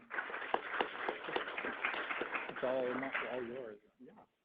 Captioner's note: applause